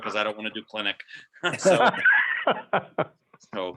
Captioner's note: laughing